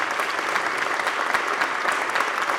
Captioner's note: applause